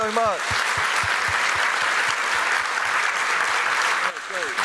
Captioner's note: applause